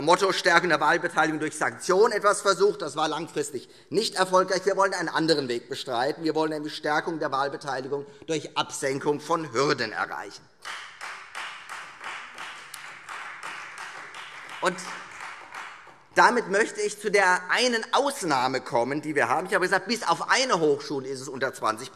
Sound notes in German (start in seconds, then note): 10.6 Beifall Freie Demokraten